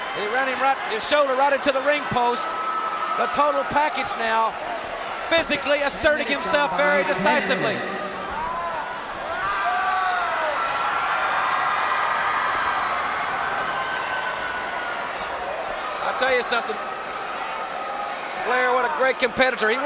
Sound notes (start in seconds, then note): 9.2 Luger screams; 11.2 crowd cheers